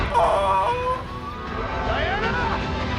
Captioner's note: croaky gasp